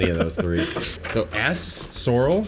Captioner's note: laughs